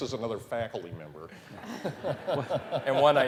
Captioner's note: laughter